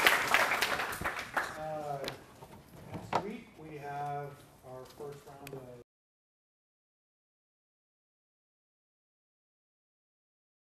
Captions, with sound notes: [ APPLAUSE ] >> NEXT WEEK WE HAVE OUR FIRST -